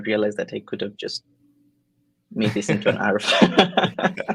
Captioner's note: laughs